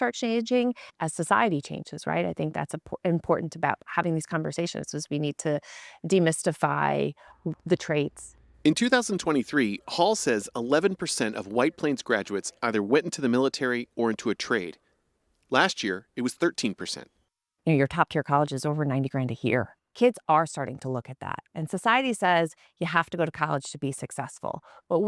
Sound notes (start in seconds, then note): 9.4 voice-over